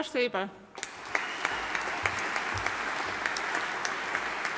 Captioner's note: audience applauding